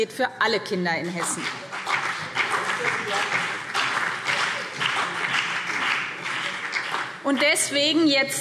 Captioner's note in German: Beifall BÜNDNIS 90/DIE GRÜNEN und CDU